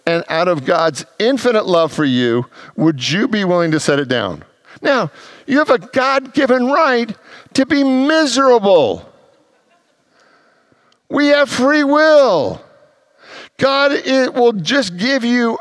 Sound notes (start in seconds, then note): 9.3 congregants laugh